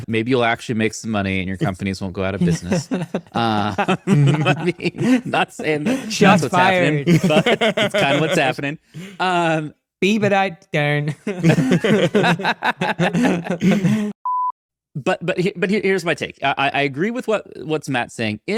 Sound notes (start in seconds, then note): 2.4 chuckling; 2.4 laughing; 2.4 laughs; 7.8 laughing; 11.2 everyone laughing; 14.2 screen beeping